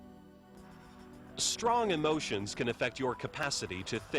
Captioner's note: voiceover